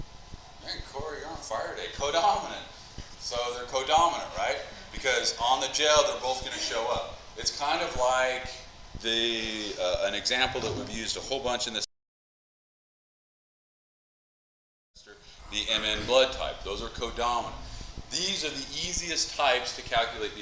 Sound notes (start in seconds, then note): 11.2 mic cuts out